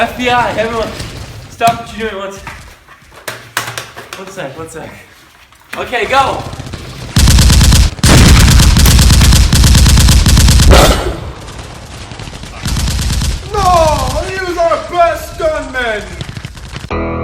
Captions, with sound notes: FBI, everyone. Stop what you're doing one sec. One sec, one sec. Okay, go! (guns firing) - No! He was our best stuntman! (guns firing)